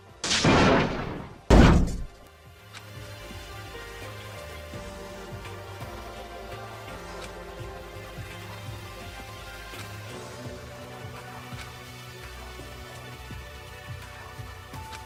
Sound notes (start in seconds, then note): 0.1 crash